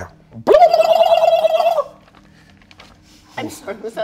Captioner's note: burbles